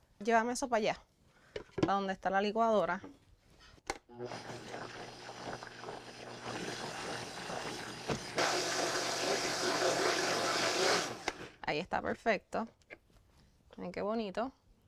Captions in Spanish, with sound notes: Llévame eso para allá a donde está la licuadora. [licuadora bate lento] [licuadora bate en alta velocidad] Ahí está perfecto. Miren qué bonito.